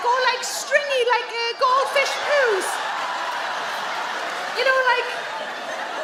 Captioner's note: audience laugh